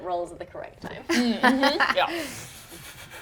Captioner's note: laughs